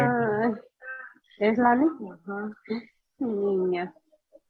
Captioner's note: woman speaking in Spanish